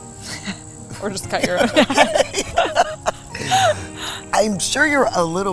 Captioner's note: both laughing